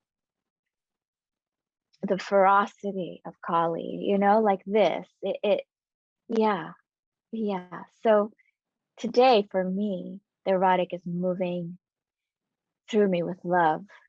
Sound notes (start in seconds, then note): none